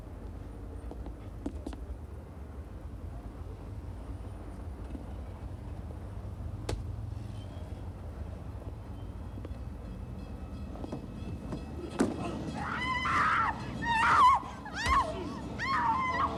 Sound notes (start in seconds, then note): 0.9 footsteps tapping; 8.8 car engines revving; 12.5 Oggie screaming